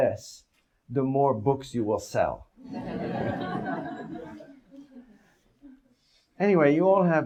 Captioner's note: audience laughs